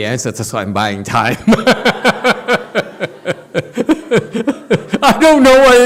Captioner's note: laughs